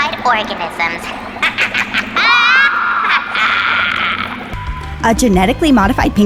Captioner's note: voice 2 evil laughing